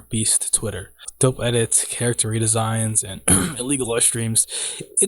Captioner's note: cough